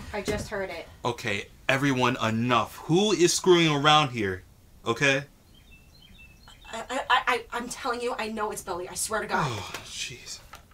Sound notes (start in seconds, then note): 5.9 birds chirping